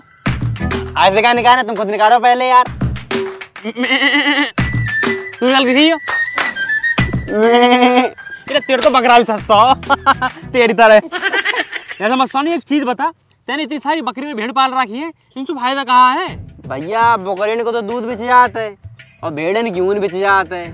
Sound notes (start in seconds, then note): 11.0 laughs